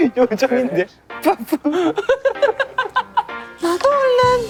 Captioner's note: laughing out loud